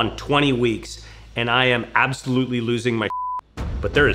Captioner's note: beep